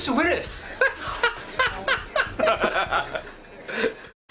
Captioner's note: laughter